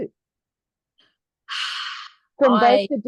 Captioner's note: sighs